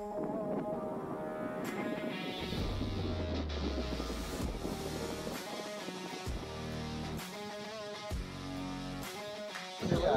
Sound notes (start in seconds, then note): 0.0 wind rumbles; 6.4 moderate rock music